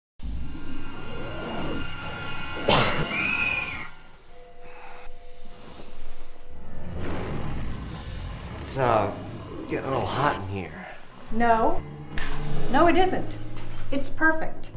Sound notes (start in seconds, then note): 2.0 scream from the TV; 2.6 cough